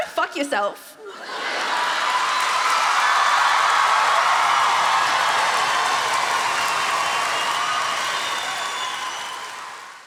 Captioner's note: laughter and appluase